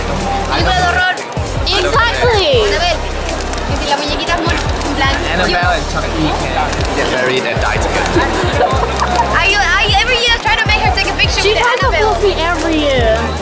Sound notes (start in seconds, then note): 3.0 still explaining in Spanish